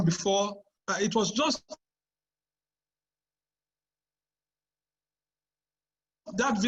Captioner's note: unstable audio